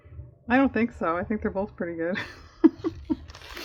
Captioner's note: laughs